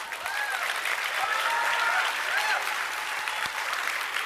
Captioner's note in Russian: бурные аплодисменты